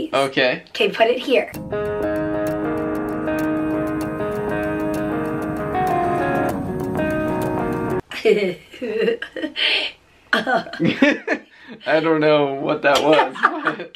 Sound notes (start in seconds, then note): 8.1 chuckling